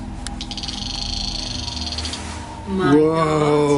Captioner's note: Rem stutters